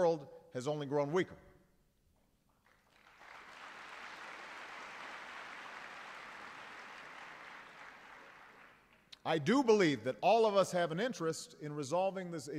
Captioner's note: applause